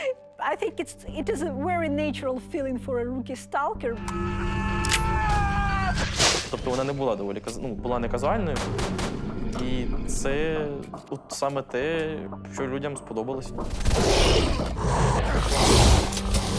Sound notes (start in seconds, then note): 4.3 man screaming; 13.8 creatures roaring